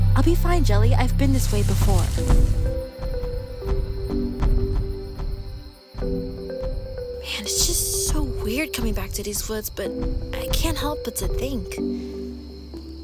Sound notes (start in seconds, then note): 3.5 more rumbling footsteps